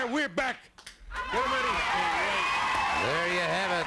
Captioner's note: crowd cheering